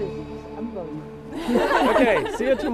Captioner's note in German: Lachen